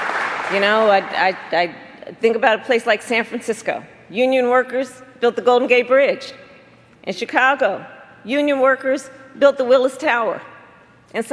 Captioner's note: applause